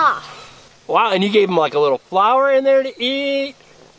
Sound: voiceover

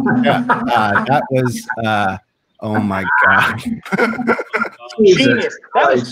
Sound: members laugh

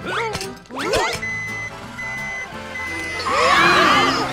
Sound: beeping

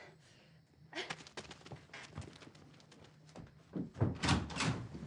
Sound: heavy breathing; fast footsteps

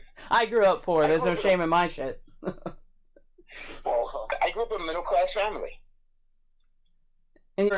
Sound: laughing

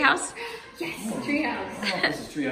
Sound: gasps

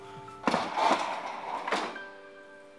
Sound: door opens

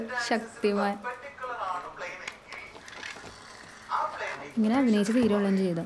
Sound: online class running in background

